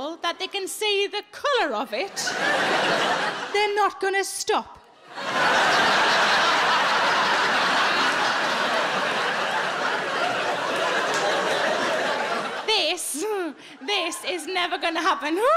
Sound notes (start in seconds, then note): 5.0 audience laughing